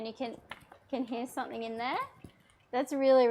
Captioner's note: nut rattling